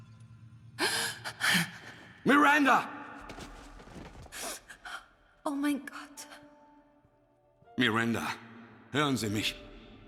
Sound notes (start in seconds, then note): 0.8 breathes heavily